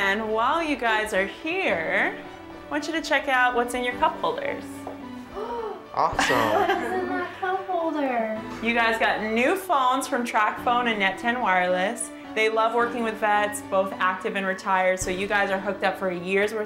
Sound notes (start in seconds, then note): 5.3 gasp